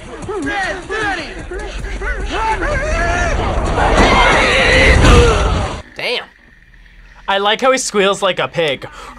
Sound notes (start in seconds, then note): 4.1 yells; 9.0 yells